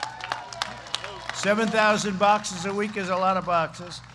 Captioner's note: applause